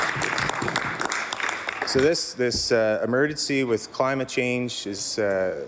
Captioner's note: some Applause